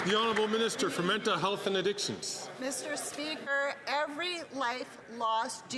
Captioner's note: some Applause